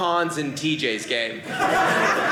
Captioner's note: audience laughing